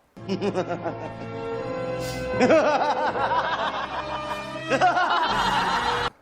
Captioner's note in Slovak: Smiech; Smiech